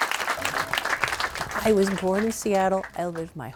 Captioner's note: applause